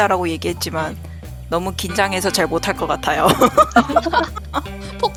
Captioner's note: laugh